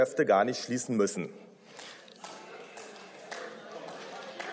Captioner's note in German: Beifall